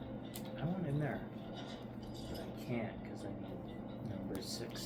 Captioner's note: video game noises and talking out loud to a video game, incomprehensible